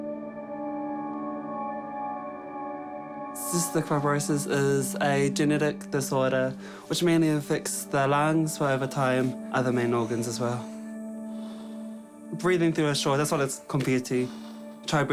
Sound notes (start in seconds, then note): 11.0 air hisses